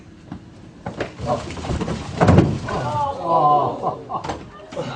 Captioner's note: attack takedown sounds